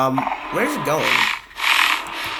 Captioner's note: Warden roars